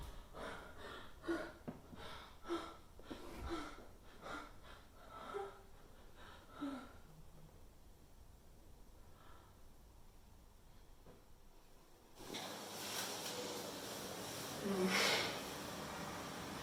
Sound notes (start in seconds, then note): 4.1 Leona pants